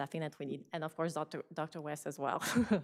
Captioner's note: laughs